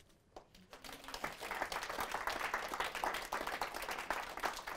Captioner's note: audience applause